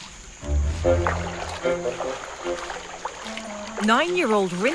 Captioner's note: water rustling